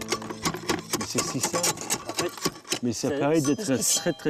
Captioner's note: speaking in French